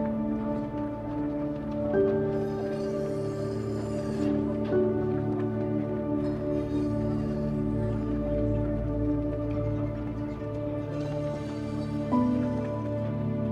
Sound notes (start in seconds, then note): 2.4 saws screeching